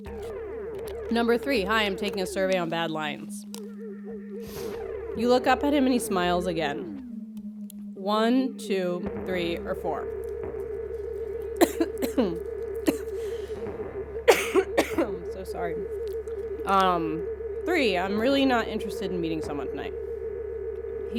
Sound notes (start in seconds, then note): 11.4 coughing